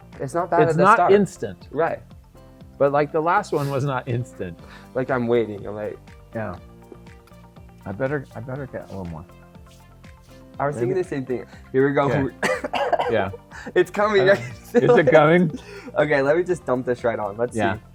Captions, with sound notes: It's not bad at the start... It’s not instant... But like, the last one was not instant. Like, I'm waiting. I'm like... I better, I better get a little more. I was thinking the same thing. Here we go. (coughing) It's coming! Is it coming? Okay, let me just dump this right on. Let's see.